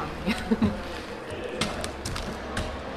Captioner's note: laughs